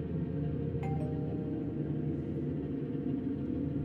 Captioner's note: doorbell rings